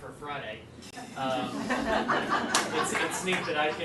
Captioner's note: laughing